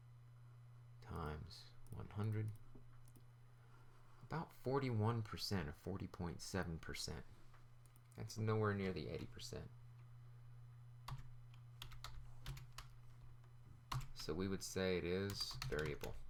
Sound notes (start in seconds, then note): 11.8 typing Sounds